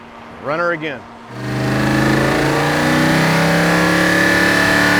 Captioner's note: engine revving